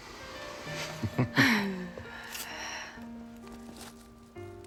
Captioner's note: both chuckle